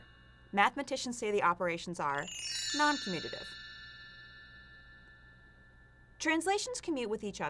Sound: magical chiming

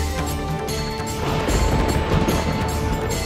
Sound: storm rumbling

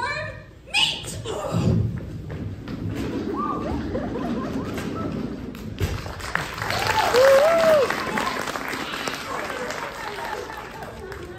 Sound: applause

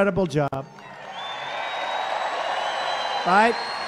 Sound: crowd cheers positively

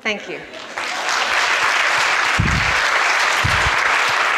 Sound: audience applauds

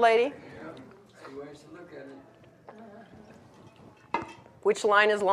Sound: audience mumbling

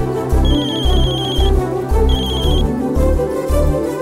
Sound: mobile ringing

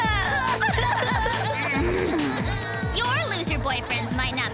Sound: crying

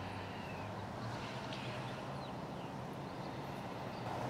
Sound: birds chirping

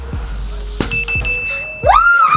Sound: bell rings; cheering

